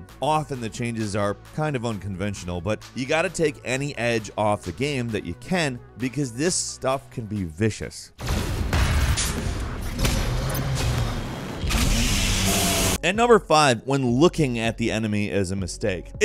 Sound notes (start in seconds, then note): 8.2 gun blasting; 9.9 monster roars